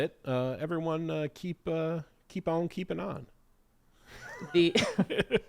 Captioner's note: laughs